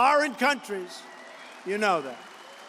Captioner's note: applause